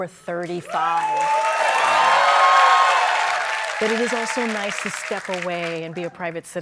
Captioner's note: cheers and applause